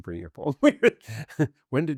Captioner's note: laughs